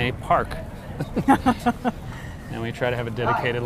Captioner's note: laughs